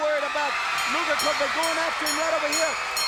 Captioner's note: crowd cheering; bell ringing